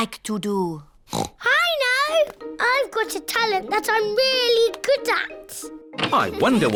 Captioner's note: oinks